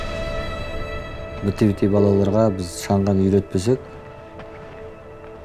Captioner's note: man speaking Chinese: English translation on screen